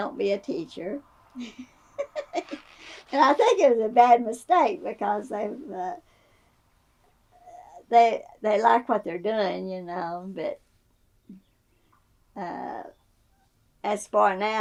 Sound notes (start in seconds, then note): 1.9 laughs